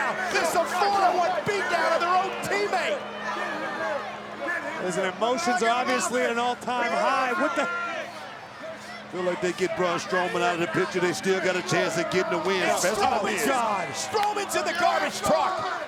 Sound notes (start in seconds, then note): 12.7 overlapping chatter